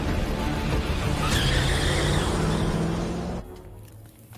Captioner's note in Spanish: Chirrido de llantas